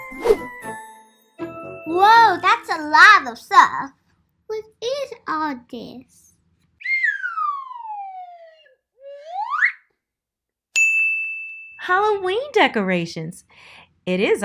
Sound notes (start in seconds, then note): 6.8 whistling; 10.7 ding